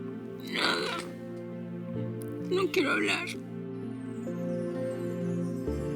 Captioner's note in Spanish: Sollozos